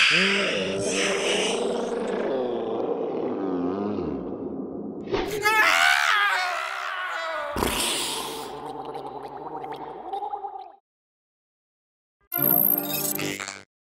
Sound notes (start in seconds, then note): 0.0 slow Motion Scream; 7.8 fading gurgle